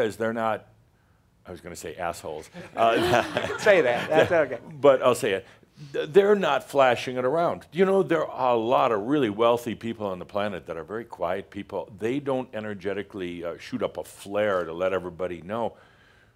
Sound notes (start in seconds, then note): 2.6 gasps